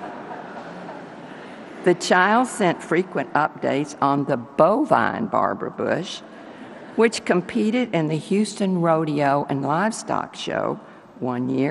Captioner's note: laughter